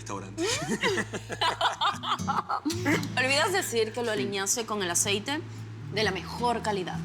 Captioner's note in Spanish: Risas